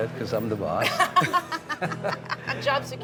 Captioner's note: laughs